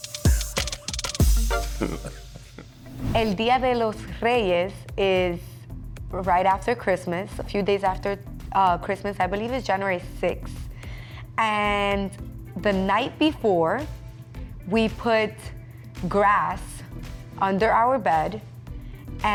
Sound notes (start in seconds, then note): 1.7 laughing; 3.1 speaking in foreign language